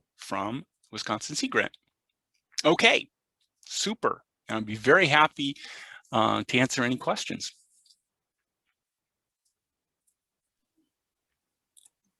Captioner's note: pause